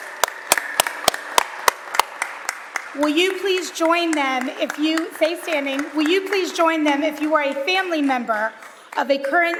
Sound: applause

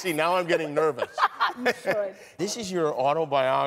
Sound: laughs

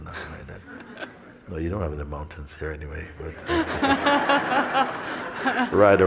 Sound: smijeh

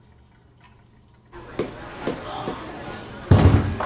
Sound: foot steps

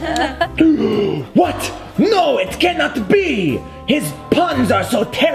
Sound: White hat gasps

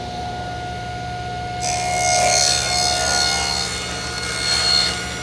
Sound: machine buzzing

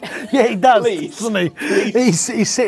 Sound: laughing

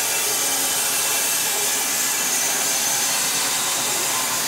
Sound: saw blade whirring

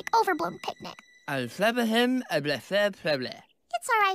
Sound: Novocaine gibberish

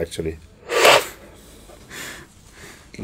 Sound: inhales

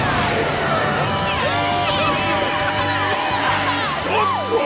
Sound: cheering

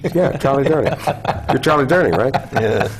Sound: laugh

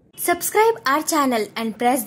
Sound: hindi

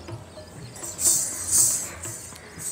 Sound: bells tinkling

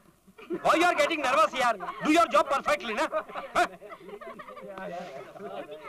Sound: laughs

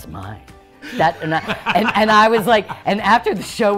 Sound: laugh

